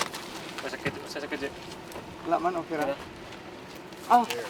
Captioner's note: speaking in foreign language